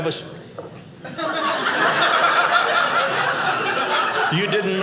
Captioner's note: audience laughing